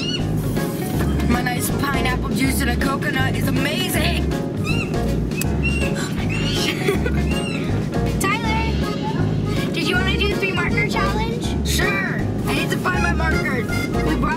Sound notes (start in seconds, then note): 5.3 bird chirps loudly